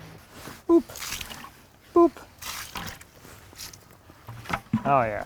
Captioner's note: splashing